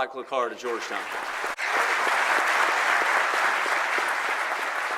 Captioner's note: audience clapping